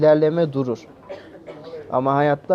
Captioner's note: cough sounds